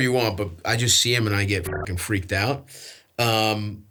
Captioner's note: beeps